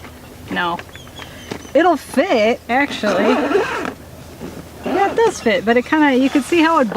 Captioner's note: clanking; zipper noises